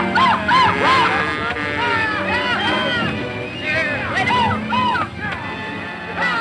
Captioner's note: shouting cowboys